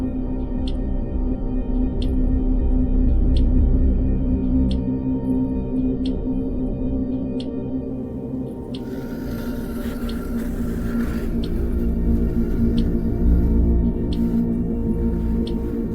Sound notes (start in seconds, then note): 8.8 drawer scraping; 12.0 mysterious music continues